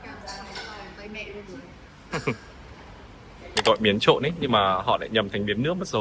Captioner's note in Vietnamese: tiếng cười